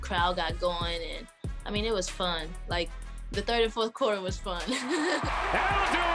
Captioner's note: laughing